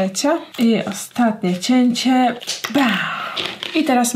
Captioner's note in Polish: westchnięcie